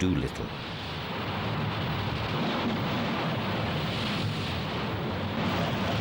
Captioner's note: plane engine roars